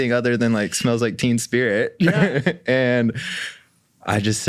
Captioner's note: laughs